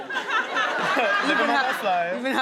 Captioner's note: audience laughs